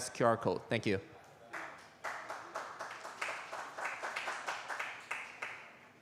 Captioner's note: applause